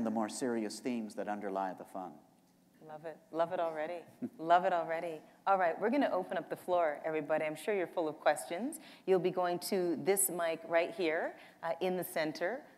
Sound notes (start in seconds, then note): none